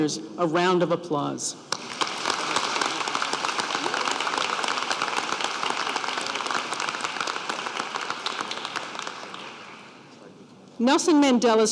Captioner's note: applause